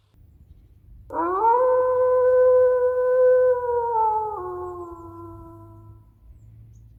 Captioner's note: wolf howl